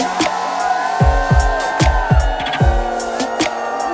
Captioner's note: cheering